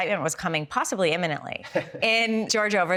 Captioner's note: Elie laughs